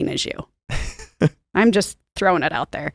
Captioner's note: laughs